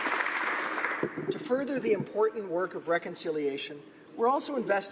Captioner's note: applause